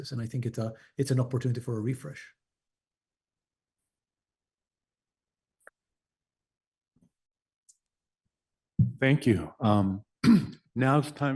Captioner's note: pause